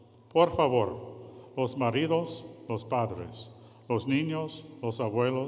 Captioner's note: speaking in foreign language